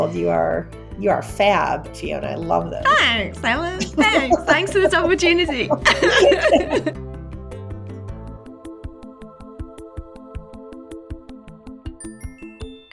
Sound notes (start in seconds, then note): 7.0 laughs; 7.3 electronic music starts and concludes